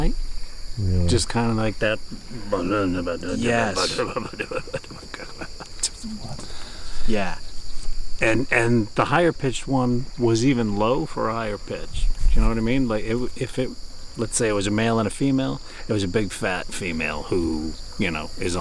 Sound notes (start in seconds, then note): 2.7 babbling